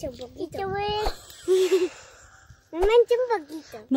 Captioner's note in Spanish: risas